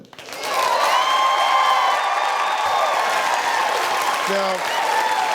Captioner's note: audience applauding and cheering